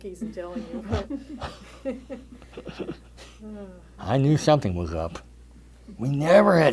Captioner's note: laughter